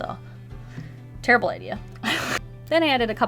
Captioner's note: laughs